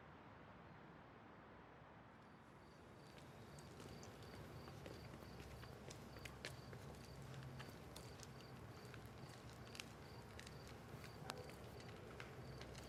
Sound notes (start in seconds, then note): 4.2 crickets chirping